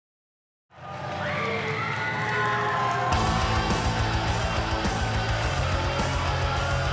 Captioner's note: crowd cheering; rock music